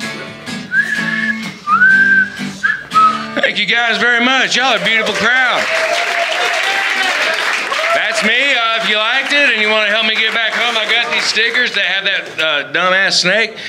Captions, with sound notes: [WHISTLING] Thank you guys very much yall a beautiful crowd [APPLAUSE/HOOTING] That's me I hope you liked it And if ya wanna help me get back home I got these stickers that have that dumb ass snake